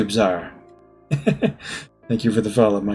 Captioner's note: chuckles